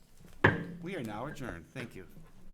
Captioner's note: gavel bangs